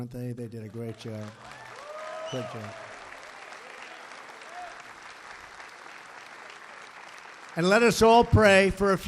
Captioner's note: applause